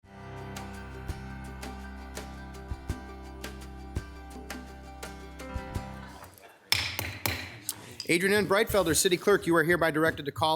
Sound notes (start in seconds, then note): 0.1 bright music; 6.7 gavel banging